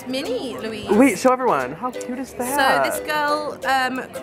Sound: voiceover

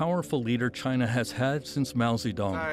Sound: speaking Foreign Language

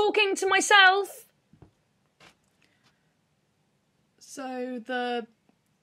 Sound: footsteps approaching

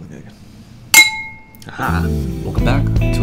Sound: clanks glass

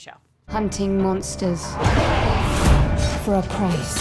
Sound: roaring

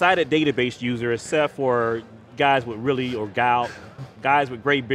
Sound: murmurs

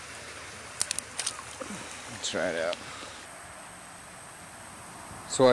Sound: fish splashing against water

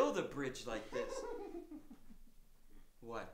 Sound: Elder high-pitched laughing

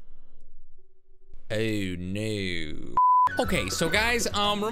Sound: beep

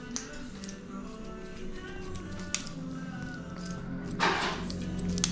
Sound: scissors swishing

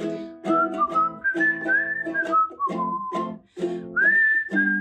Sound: whistling

